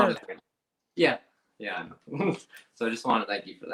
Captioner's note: laughs